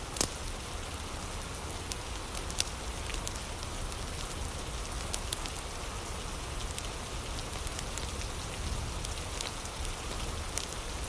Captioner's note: fire crackling